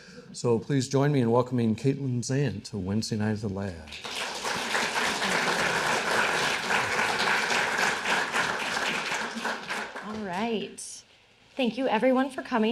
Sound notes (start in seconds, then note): 3.8 audience applauding